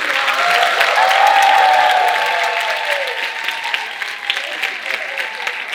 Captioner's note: audience cheering and applauding